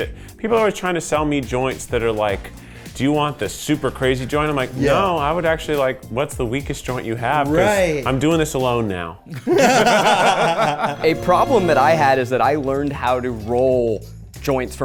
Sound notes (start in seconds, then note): 9.3 people laughing